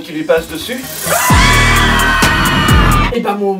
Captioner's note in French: cris hystériques